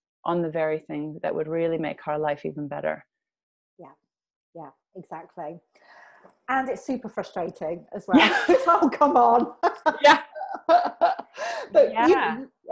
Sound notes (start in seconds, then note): 9.4 laughs